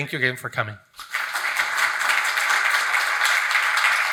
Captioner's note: attendees applauding